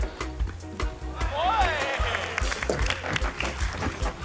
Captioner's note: applause